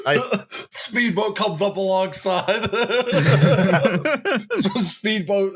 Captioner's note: laughs suddenly; laughs